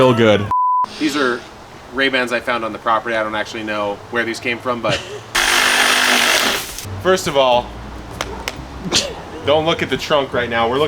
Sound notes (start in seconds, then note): 0.3 tone beeping; 5.3 power saw sawing; 8.0 hand patting; 8.8 laughs